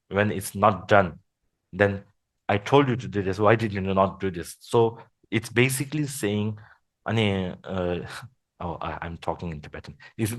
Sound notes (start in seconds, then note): 7.1 foreign language